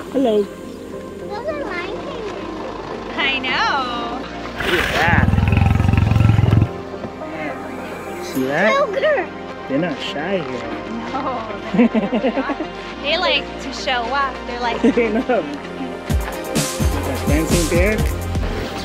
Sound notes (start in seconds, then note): 4.4 cougar growling sound effect; 11.7 giggles; 16.0 dance music